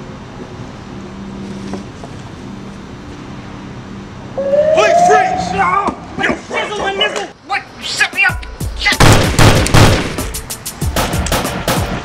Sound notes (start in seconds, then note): 4.3 sirens blaring; 9.0 gunshots